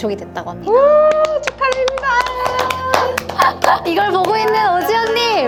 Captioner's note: clapping